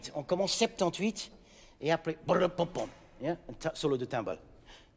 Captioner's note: speaking in French